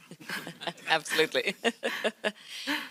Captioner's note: chuckles